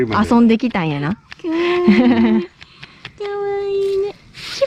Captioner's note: laughs